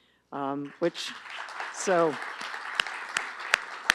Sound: applause

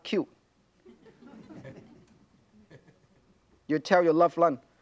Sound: audience laughs

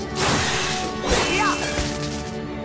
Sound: grunting

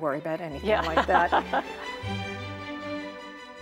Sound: laughing

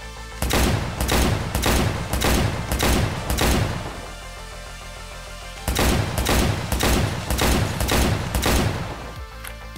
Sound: 45 cal gunfire

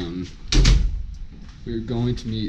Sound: door closes

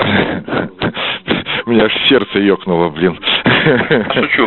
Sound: laughs

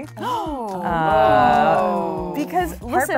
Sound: gasping

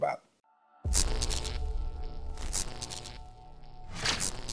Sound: computerized buzzing

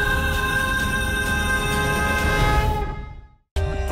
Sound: conch blows

